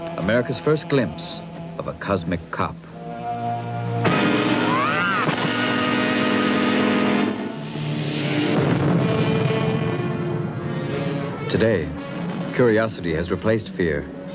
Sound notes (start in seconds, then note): 2.9 dramatic theme music; 4.0 bullet ricochet sounding; 7.9 engine rumbling; 8.4 thunder clapping